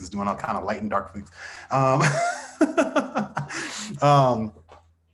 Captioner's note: laughs